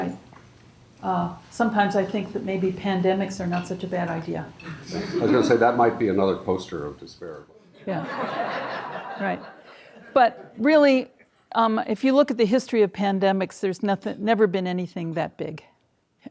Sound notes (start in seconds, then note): 4.9 audience laughing; 7.8 audience laughing